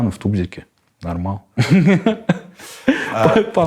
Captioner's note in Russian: смеётся